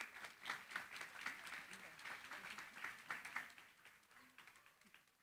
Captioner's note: applause